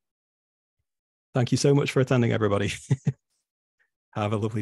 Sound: chuckles

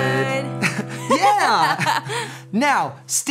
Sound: laughs

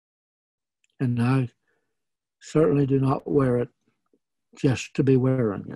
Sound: none

